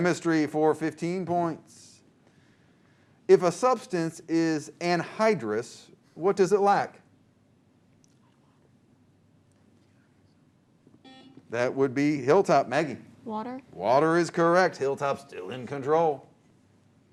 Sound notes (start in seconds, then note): 11.0 buzzer